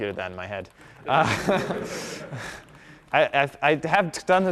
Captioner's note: laughter